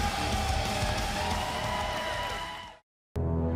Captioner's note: crowd cheering